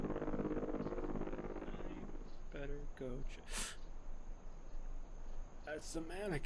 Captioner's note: sharp intake of air